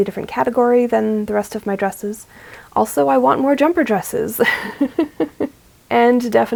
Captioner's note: laughs